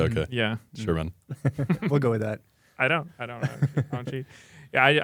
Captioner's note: laughs